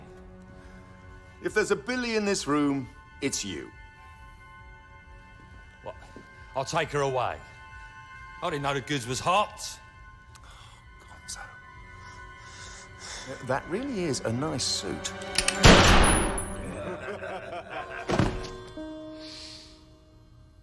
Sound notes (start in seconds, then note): 15.6 gunshot; 16.6 laughter